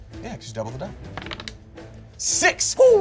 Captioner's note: dice rolling